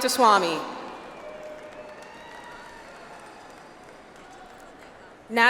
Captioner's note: audience applauds